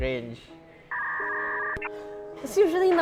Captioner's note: loading noise